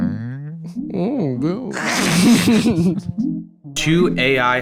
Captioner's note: both laughing